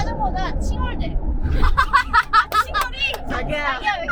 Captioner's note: laughs